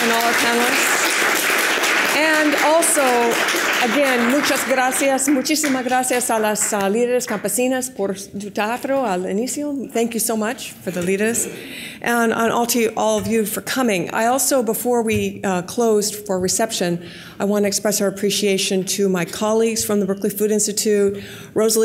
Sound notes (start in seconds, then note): 0.0 audience applause; 4.0 speaking in foreign language